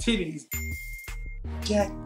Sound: bell dings

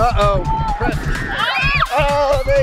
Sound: children screaming

